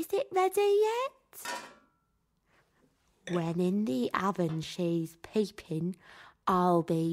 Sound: whispers

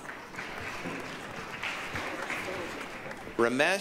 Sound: applause, cheering

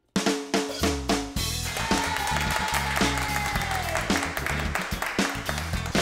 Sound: applause and Cheering

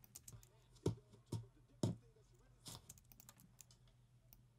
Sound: typing on keyboard

